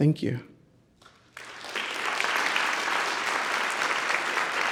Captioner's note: audience clapping